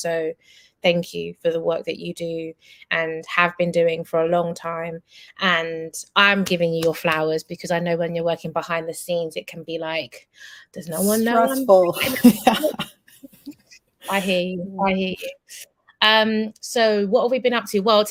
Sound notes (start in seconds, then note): 11.0 laughs